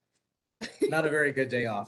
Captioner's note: laughs